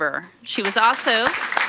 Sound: audience applauds

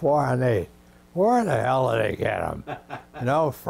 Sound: laughs

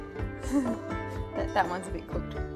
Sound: chuckles

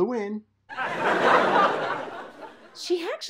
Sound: audience laughs

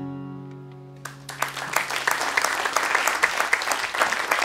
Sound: cheers and applause

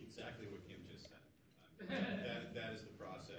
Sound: audience laughs

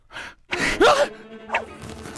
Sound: gasp!

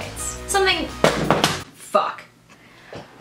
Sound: phone drops

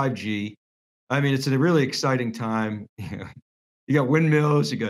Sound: laughs

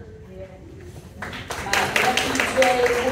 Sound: applause

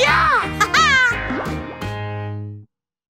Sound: laughs

